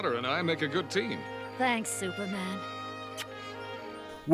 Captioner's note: kissing sound